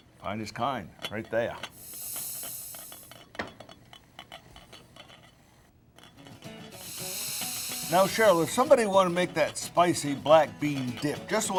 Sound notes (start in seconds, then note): 1.7 steam hissing; 3.2 pot rattling; 6.2 upbeat music